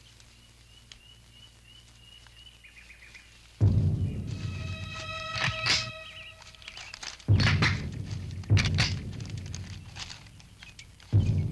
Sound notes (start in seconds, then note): 4.2 awry music playing; 6.3 assault rifles cocking